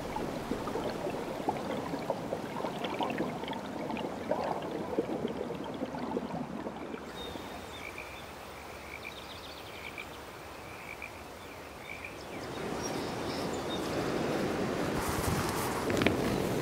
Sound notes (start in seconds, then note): 1.5 bubbling; 9.2 birds singing; 14.1 river rushing